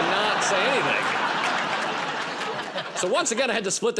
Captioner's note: laughter